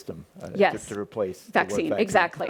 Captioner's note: laughs